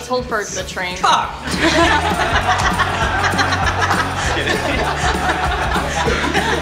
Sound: laughter

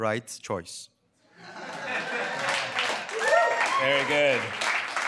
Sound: applause

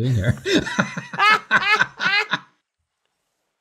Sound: both laughs

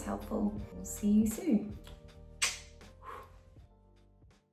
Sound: blows kiss

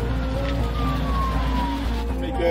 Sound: sirens

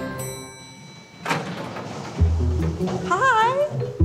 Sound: lift door bings

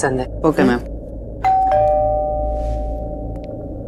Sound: doorbell ringing

